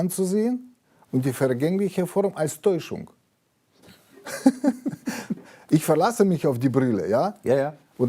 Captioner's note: laughs